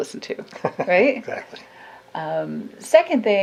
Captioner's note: laughs